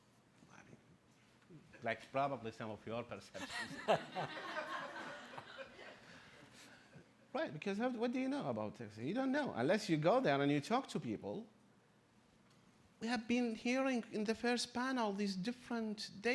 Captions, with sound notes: like probably some of your perceptions. (laughing) Right, because what do you know about Texas? You don't know, unless you go there and you talk to people. We have been hearing in the first panel